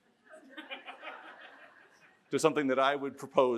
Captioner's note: audience laughs